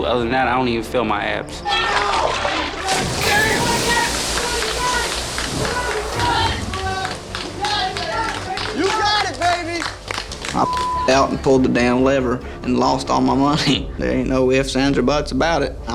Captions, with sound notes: Other than that, I don't even feel my abs. (teammates shout) (water whooshes) (teammates chatter) (teammates clap) - You got, baby. (claps) - I (beep) out and pulled the damn lever and lost all my money. (chuckles) There ain't no ifs, ands, or butts about it.